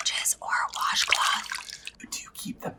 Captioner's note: water drips